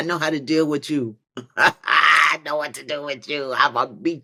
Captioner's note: laughs